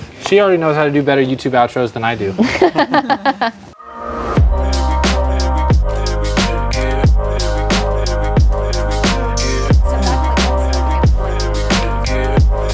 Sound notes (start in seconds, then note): 2.4 laughing; 3.9 upbeat music